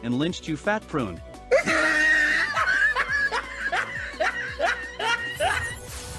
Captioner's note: laughs